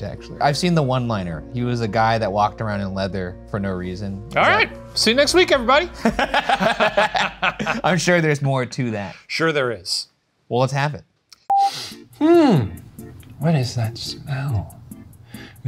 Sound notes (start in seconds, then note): 5.9 both laughing; 11.6 sniffs